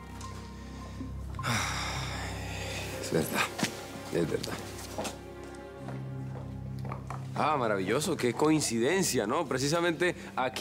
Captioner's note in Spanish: Exhalando